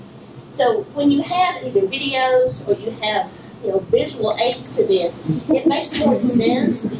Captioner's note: laughter from audience